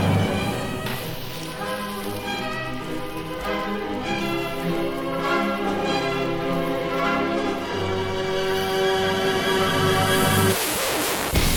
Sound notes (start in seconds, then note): 2.0 sound of crackling fuse; 10.0 record player needle scratch